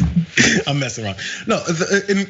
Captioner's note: laugh